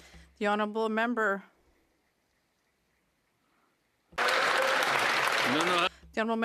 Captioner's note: some Applause